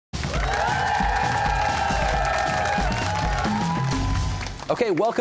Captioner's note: cheers and applause